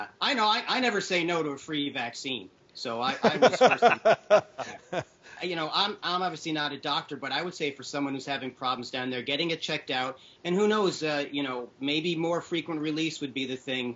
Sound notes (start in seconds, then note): 3.1 doctors laughing